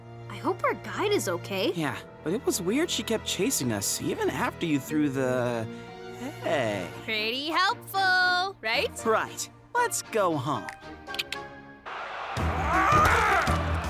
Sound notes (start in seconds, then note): 11.1 snapping fingers, clicking tongue; 11.9 shouting; 13.7 crowd cheering